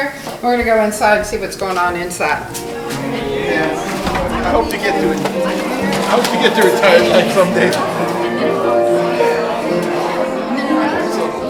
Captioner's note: background conversations and live piano music